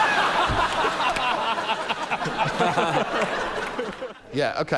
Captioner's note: laughter